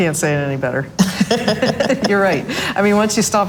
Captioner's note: laughs softly